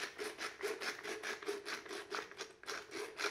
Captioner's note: grinding